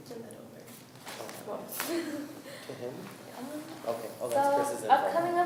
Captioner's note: students talking